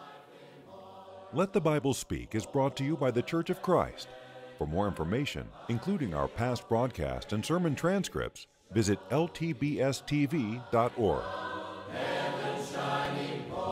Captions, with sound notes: - [Voiceover] If you would like a free copy of today's sermon, would like to receive the free Bible study course, or want more information about the Churches of Christ, contact us at the address on your screen.